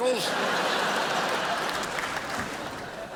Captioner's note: crowd laughs